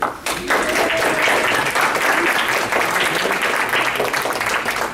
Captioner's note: audience applauding